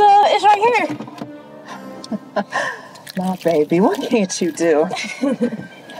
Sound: chuckles

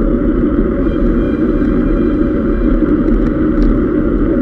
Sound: calls of cyclists

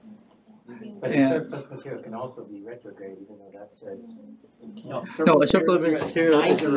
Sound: indistinct chatter; indistinct chatter

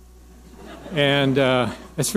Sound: audience laughing

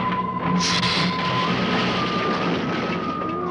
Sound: suspenseful orchestral music; hissing

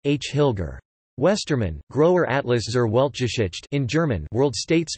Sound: in German

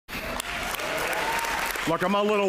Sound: applause

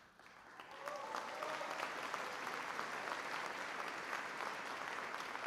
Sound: applause

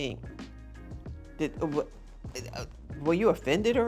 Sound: stammers

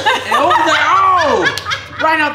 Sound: laughing

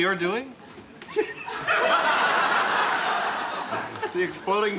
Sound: laughing

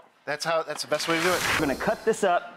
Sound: air and chimes whooshing

